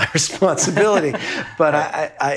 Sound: both laughing

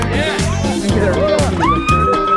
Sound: screams

